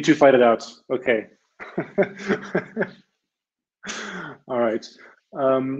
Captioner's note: laughs